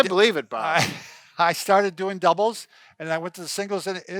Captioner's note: laughs